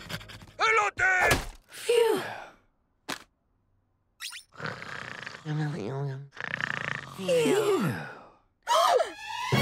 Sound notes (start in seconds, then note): 0.1 toy talking in Spanish; 4.2 snoring; 8.2 gasping